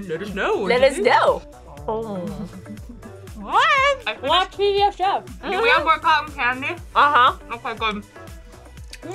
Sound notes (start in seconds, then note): 1.8 eating sounds